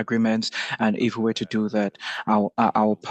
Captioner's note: speaking French